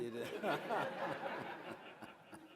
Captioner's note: audience laughing